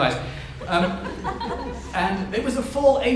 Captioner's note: audience members laugh